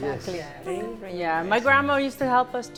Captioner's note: in Spanish